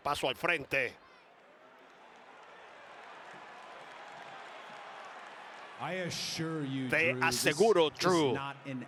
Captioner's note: applause